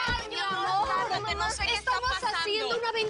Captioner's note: Hablan al unísono